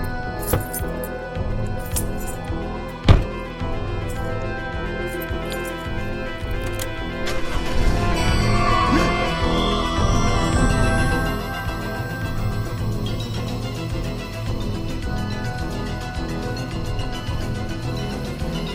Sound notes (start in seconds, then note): 0.1 suspenseful music; 7.5 engine revving; 9.1 gasping; 15.6 suspenseful music